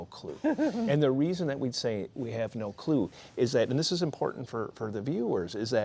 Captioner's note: laughter